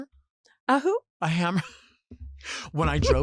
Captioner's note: laughs